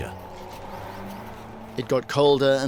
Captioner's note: wind whistling